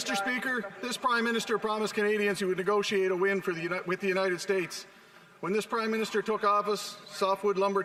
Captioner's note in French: voix de l'interprète